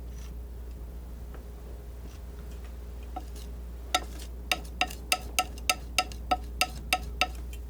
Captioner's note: tapping on paper